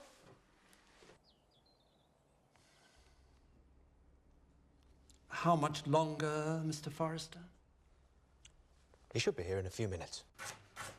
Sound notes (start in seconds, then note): 1.1 birds chirping